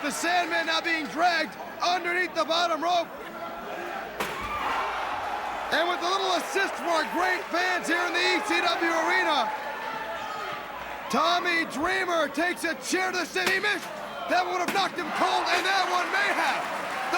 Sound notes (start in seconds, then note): 7.6 crowd cheering